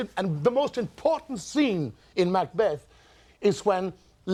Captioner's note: none